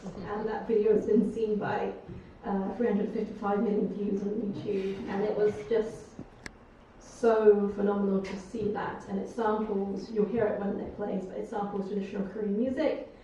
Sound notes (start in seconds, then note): none